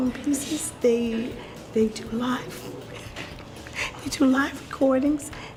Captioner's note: laughs